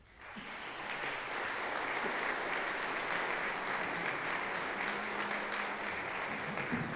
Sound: applause

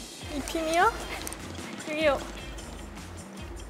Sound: scurry

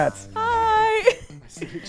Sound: chuckling

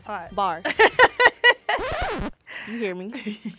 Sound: laughs

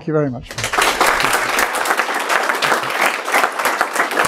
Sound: applause

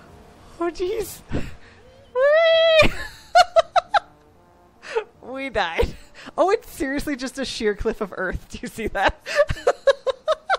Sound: laughter

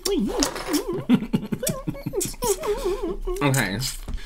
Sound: spitty Mouth Noises

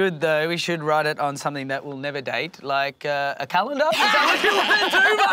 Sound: combined laughter

